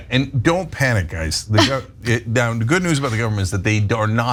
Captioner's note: laugh